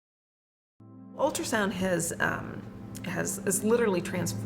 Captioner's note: voiceover